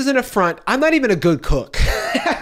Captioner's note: laughs